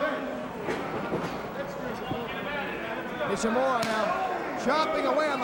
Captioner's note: crowd chatter